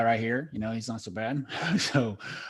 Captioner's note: laughs